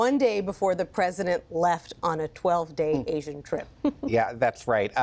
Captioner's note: laughter